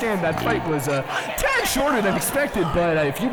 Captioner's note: crowd booing and complaining